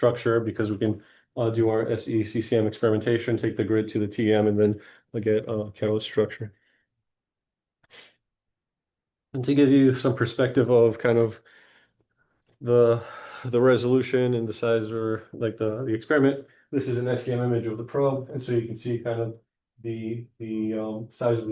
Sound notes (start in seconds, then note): 7.8 sniffle